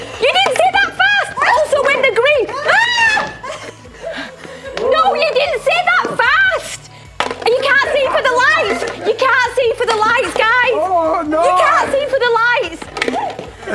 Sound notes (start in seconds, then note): 2.5 screams